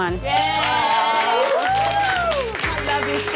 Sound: all cheering

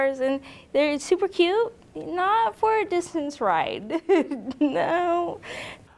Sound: laughs

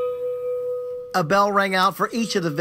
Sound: bell ringing

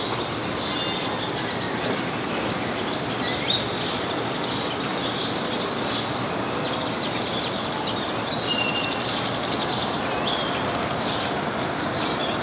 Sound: birds chirping

